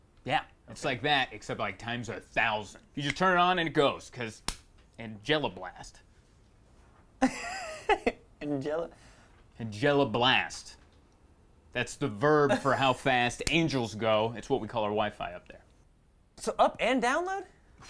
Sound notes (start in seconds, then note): 7.4 laughs